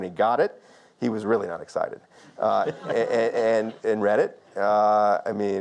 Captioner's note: audience laughs softly